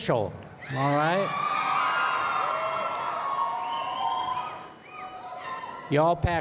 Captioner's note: applause